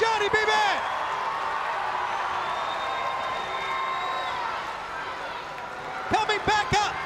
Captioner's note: crowd cheering